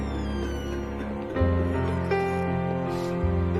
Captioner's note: crying